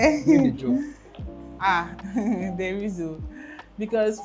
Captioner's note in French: rires